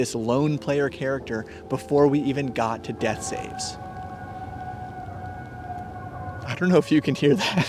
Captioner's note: creepy screeching echoes